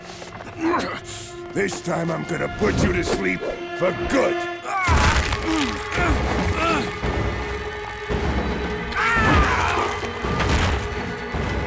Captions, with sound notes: [groaning] This time, I'm going to put you to sleep for good. [groaning] [groaning]